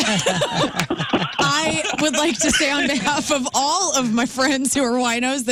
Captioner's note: laughing